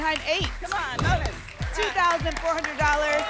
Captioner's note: whoosh